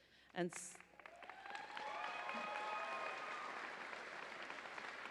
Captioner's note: audience applauding